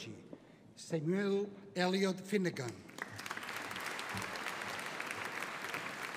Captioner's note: audience applauding